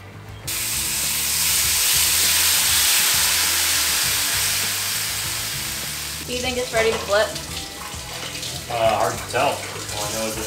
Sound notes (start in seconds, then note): 0.9 sizzling